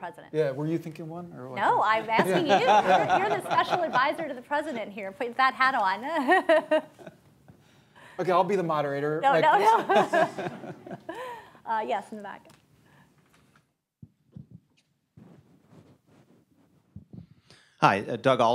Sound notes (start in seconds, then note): 4.1 laughter; 9.5 laughter